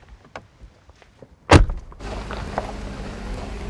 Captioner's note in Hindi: कार का दरवाजा पटकना